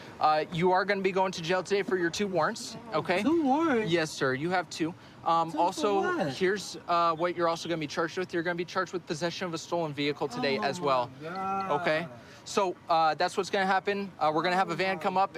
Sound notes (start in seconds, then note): none